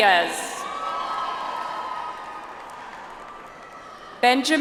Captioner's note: audience applauds